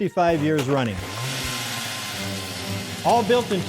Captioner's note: motor revving